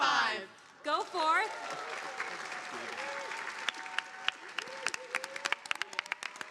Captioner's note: audience applauding